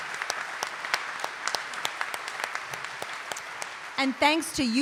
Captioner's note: audience applauding